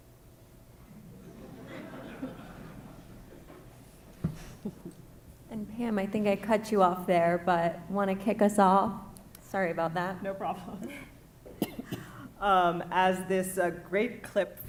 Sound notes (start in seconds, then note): 0.9 audience laugh; 4.3 chuckles